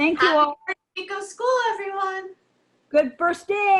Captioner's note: audio distorting